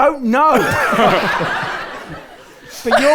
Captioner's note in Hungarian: röhög